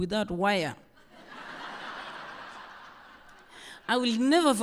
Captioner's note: laughter